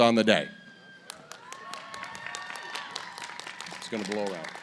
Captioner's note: applause